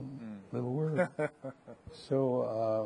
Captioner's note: chuckling